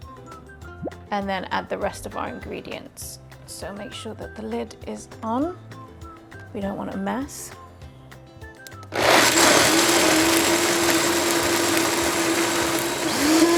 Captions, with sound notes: and then add the rest of our ingredients. So make sure that the lid is on. We don't want a mess. (blender whirs)